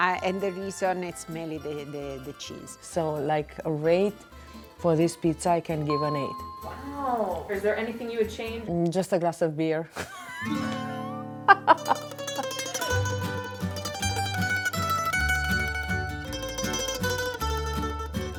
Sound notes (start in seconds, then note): 9.9 laughing; 11.6 upbeat classical music